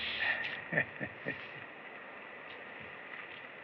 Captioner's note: chuckles